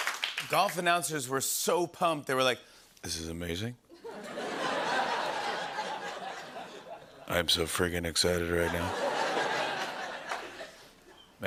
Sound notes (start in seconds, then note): 3.9 laughter